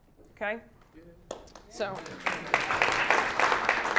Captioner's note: applause